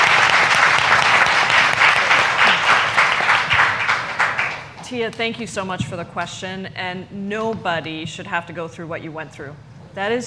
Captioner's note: applause